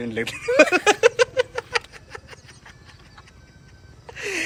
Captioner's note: giggles